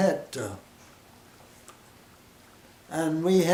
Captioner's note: silence